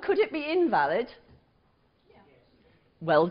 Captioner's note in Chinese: 無聲